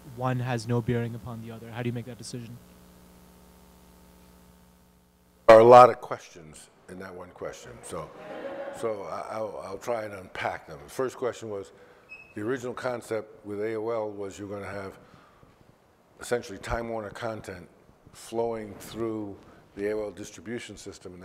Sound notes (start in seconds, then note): 3.8 microphone muted; 7.8 audience laughs